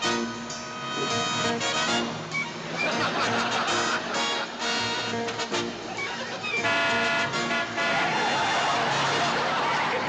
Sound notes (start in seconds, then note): 6.0 horn honking; 7.7 tires squealing